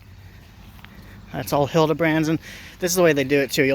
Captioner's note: sigh